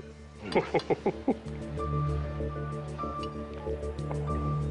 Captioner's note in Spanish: Risas